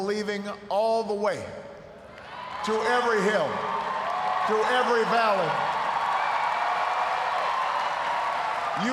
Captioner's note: cheers, applause